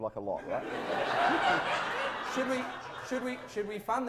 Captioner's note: audience laughter